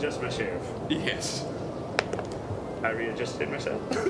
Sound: rolls dice; giggles

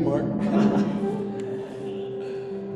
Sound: chuckles

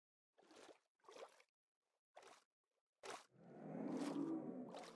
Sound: splashing

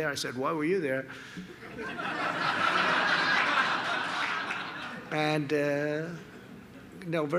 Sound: laughter

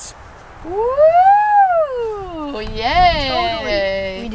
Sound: cheers

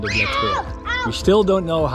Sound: shouts

